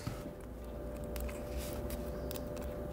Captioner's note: distant whirring